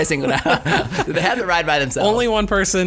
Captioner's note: laughing